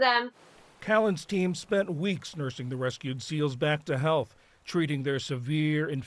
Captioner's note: voice-over